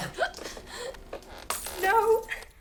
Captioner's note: glass shatters